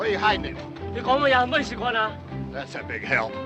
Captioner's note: speaking in Chinese